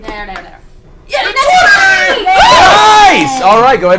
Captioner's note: all cheer